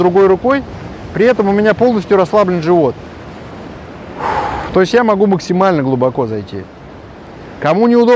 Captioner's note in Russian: выдох